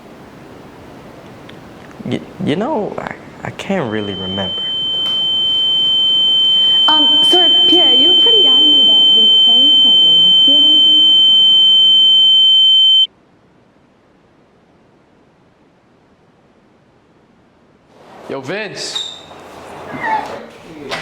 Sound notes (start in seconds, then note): 8.7 becomes more muffled